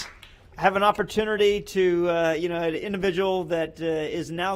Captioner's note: applause